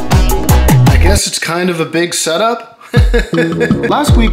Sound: laughs

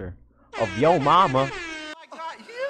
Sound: air Horn Sound

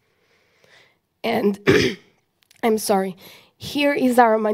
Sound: clears throat

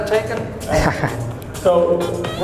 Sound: laughs

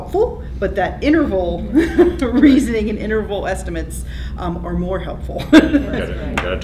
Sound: laughter

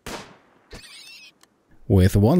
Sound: gunshot; squeal

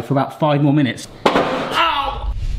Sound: loud thud

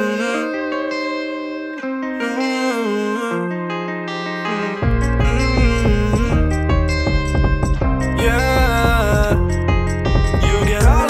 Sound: beautiful humming

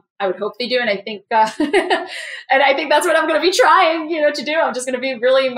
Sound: laugh

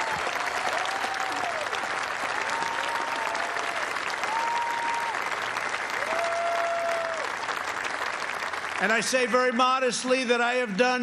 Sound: cheers and applause

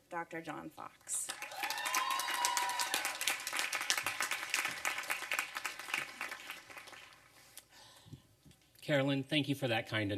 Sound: applause and cheering

